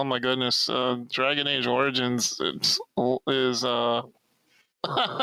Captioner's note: laughs